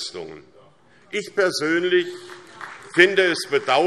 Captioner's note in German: Beifall SPD und vereinzelt BÜNDNIS 90/DIE GRÜNEN